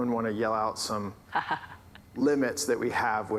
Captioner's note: laughs